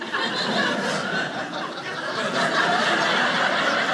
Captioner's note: audience laughing